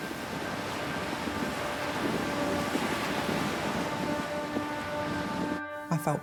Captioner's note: waves crashing; tense music